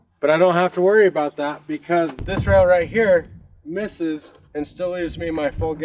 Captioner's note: none